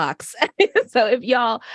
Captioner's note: laughter